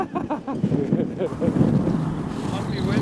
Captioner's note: laughing